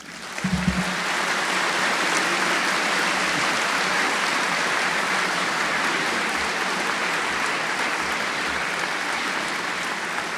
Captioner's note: applause